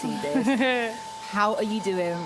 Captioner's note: laughs